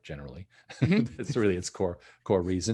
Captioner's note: both laughing